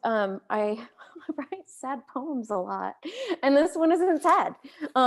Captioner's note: chuckles